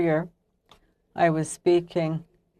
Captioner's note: speaking French